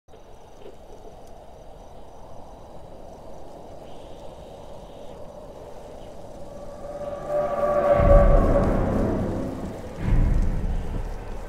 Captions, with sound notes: [Crickets chirp] [Wind sighs quitely] Subtitles brought to you by: Potato Potato